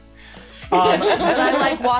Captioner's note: all laughing